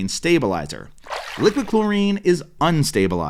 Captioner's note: water splashing